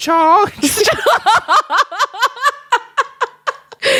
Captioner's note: both laugh